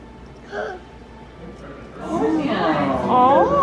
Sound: gasps

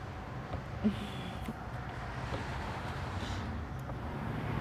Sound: Leanna chuckles

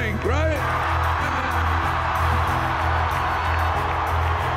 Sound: crowd cheering

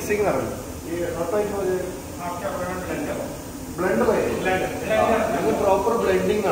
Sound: conversation in Hindi

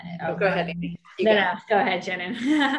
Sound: laughs

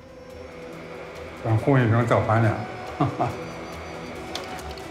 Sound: speaking Chinese

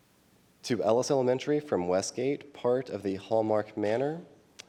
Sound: none

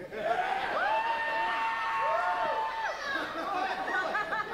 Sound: whooping

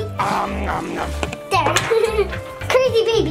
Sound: Vlog makes pretend eating sounds; laughing

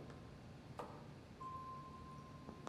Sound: tracker beeping

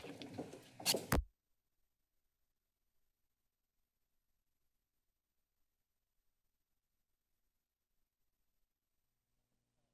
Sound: silence

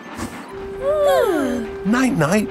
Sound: both yawning

